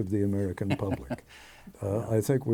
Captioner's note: laughing